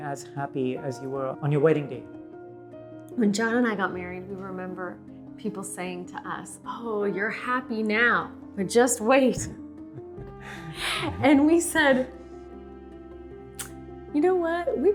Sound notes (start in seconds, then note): 9.9 chuckling